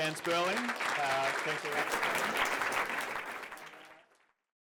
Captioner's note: applause